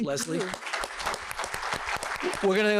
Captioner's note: applause